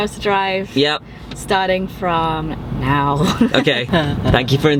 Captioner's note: laughing